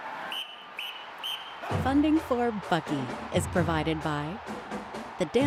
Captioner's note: crowd cheers; whistle blows